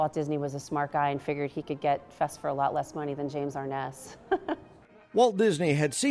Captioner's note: laugh